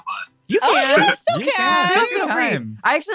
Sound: all cheering

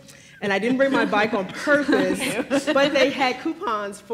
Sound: laughs

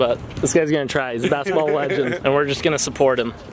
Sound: laughs

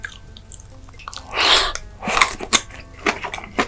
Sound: sweeping

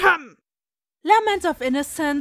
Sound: cough

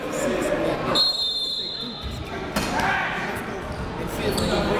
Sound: whistle blows

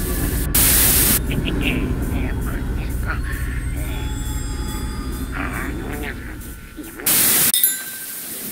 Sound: giggling and mumbling

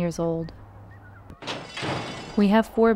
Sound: faint sound of horse race

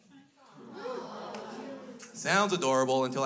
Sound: crowd

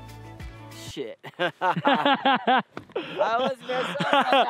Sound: both laughing

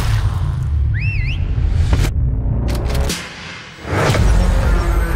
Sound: whistling

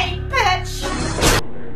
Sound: gunshot

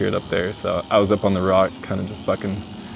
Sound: chainsaw engine

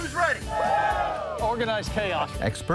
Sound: crowd cheering

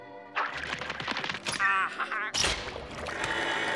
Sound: laughing

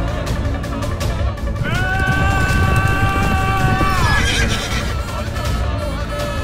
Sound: thief yelling; horse neighing

